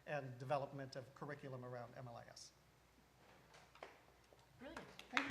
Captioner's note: applause